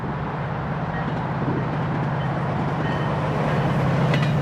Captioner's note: train sound